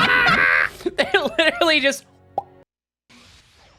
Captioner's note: laughing; mouth popping sound